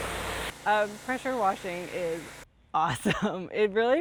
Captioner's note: laughs